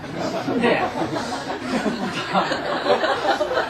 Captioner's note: audience laughter